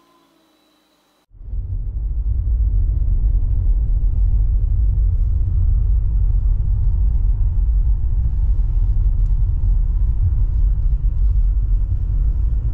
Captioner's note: driving sounds heard from the cabin